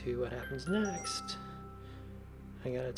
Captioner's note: notification bell dinging